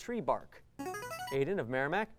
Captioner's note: ringing